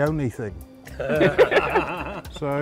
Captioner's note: both laugh